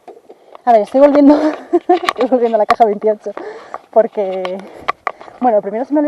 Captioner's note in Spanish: se ríe